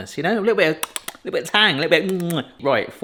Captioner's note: smacks lips